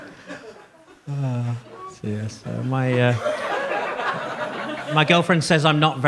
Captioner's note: audience laughs